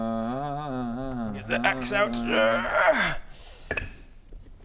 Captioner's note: grrrrrrrrgh